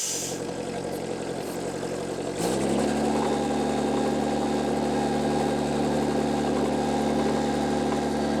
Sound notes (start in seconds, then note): 0.0 engine humming; 3.4 engine rumbling